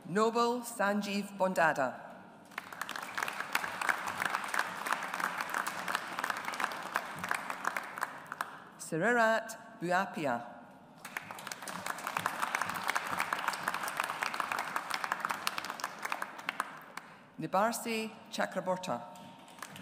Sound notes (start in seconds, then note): 2.5 audience applauds; 11.0 audience applauds